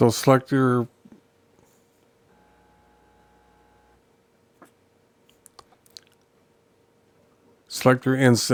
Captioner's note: silence